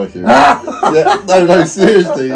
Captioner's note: laughing